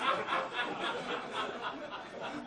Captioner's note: audience laughing